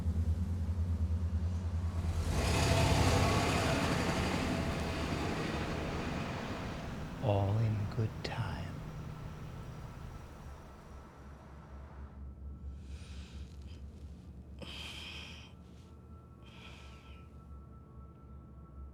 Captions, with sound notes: (car engine rumbling) All in good time. (Mirabeth sighs) (soft solemn music)